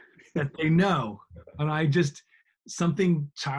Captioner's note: laughing